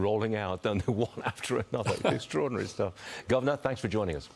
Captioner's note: laughter